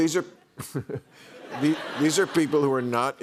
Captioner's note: laughter; chuckles